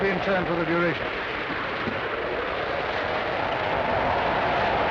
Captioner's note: wind howling